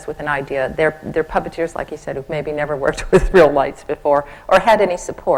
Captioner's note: laughs